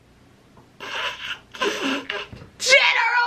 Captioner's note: stifled laughing